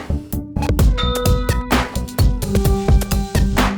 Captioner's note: ding